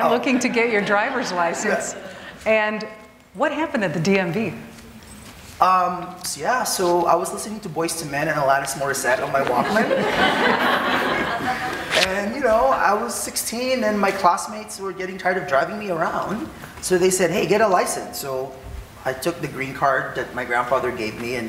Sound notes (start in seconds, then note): 9.4 audience laughing